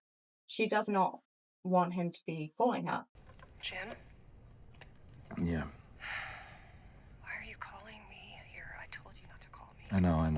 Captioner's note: sighs